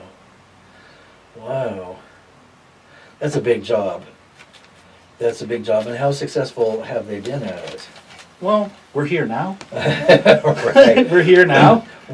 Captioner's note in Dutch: beide lachen